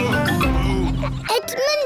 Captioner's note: daddy pig groans